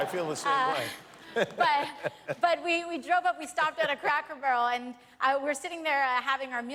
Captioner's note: laughter